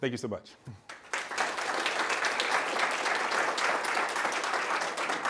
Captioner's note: applause